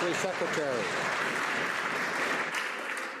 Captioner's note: some Applause